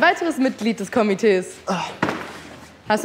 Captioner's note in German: Seufzen